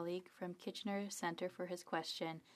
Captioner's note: speaking French